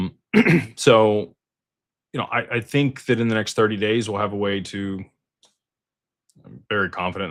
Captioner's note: clears throat